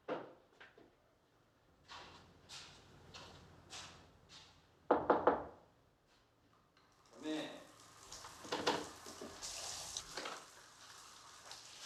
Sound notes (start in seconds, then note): 2.4 footsteps; 4.9 knocking